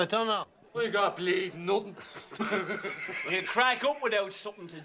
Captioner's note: Riéndose